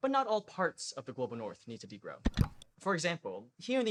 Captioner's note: click